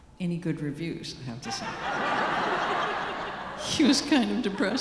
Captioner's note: audience laughing